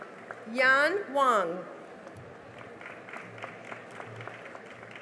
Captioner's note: cheering and applause